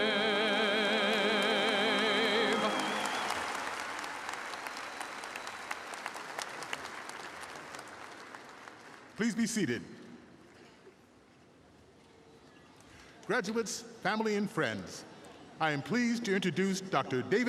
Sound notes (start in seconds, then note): 4.0 applause